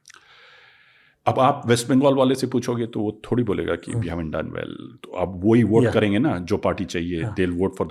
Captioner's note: speaks in Hindi